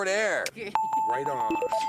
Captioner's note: bells